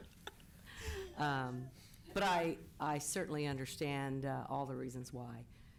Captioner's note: laughter